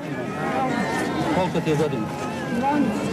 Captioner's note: speaking Serbo-Croatian